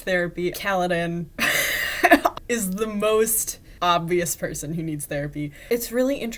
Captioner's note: laughing